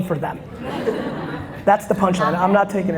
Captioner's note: audience laughter